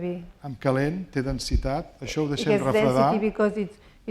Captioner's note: speaking spanish